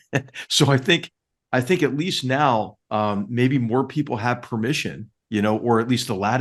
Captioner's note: laugh